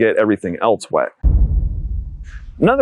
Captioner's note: thud